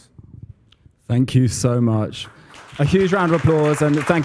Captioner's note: applause